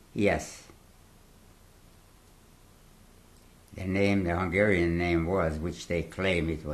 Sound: pauses for 3 seconds

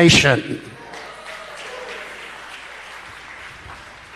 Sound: congregation applauds

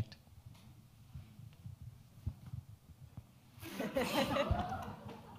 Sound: audience laughing

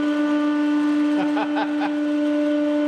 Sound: laughter

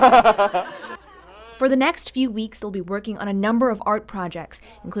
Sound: laughter

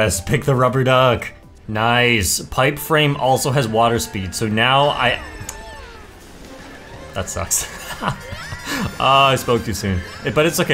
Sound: laughs

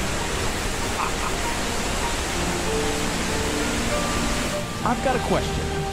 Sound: gentle music; water roaring; both laugh

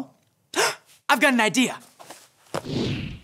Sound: gasps; air whooshing

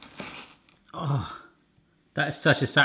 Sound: crunch; groan

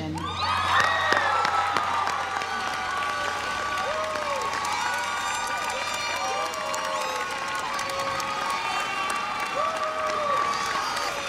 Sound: applause

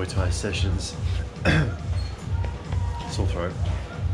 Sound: coughs

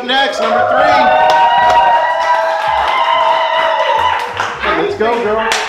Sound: cheering

